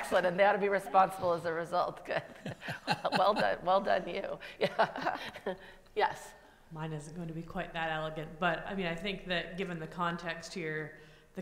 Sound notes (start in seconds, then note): 0.0 laughs; 2.4 laughs; 5.3 laughs